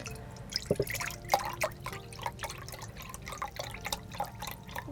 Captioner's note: broth splashing